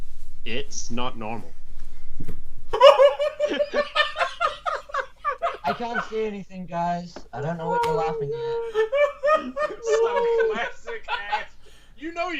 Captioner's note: laughter